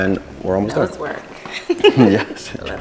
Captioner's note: laughs